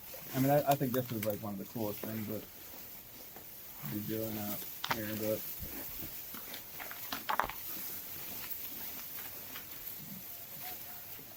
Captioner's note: footsteps continue